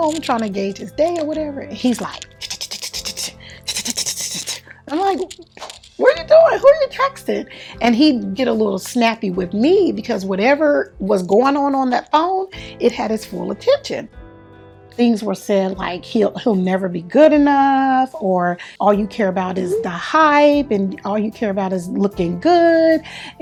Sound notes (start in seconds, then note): 4.7 emulates typing sounds